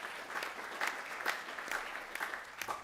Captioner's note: applause